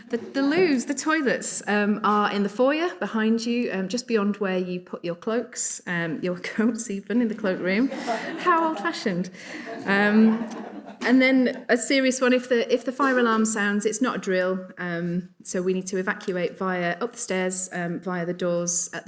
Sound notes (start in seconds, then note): 0.0 audience chuckling; 7.8 audience laughing